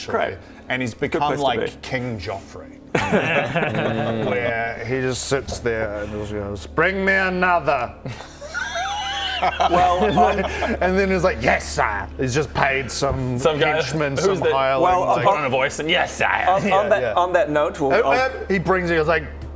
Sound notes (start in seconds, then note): 8.0 unsympathetic laughter